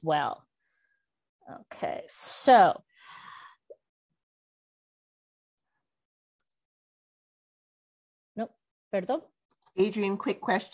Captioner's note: Spanish